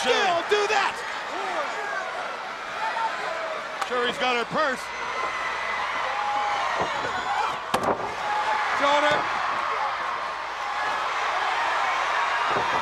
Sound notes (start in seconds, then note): 2.4 crowd cheering; 5.5 crowd cheering; 7.7 Ric thudding on ring; 10.3 crowd cheering